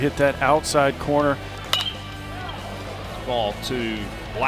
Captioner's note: bat hits ball